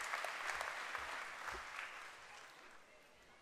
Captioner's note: applause